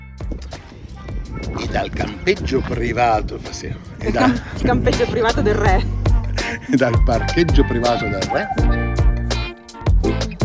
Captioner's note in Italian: risate